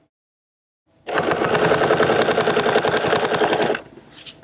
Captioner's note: machine whirring